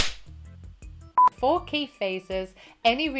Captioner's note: beep; claps; beep